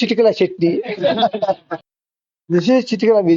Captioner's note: laughs